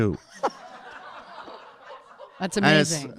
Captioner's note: audience laughing